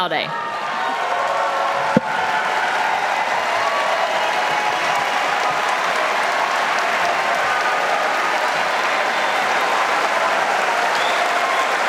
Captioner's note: audience applauding